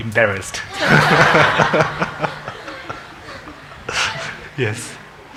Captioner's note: congregation laughing